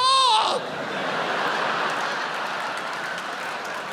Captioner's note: audience laughs